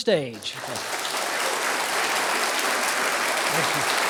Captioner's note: applause